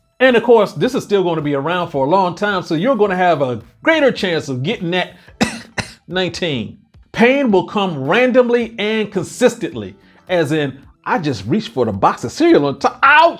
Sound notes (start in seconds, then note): 5.4 coughs